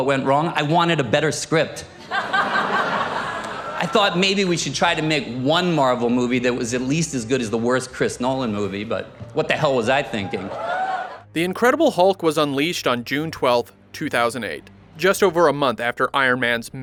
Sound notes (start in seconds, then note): 2.0 audience laughter; 10.3 audience laughter